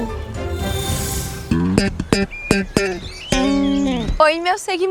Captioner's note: guitar Chords; birds